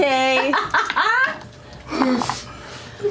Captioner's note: laughter